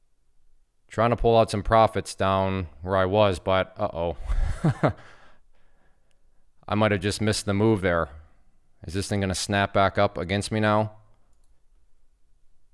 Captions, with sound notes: Trying to pull out some profits down, where I was, but oh, (instructor laughs) I might have just missed the move there. Is this thing gonna snap back up against me now?